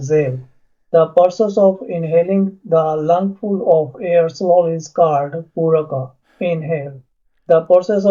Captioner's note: inhale